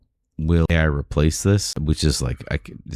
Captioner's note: uh